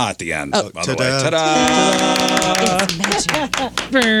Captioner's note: applause